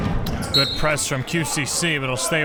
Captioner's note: whistle blows